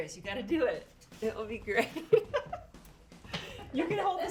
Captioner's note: laughs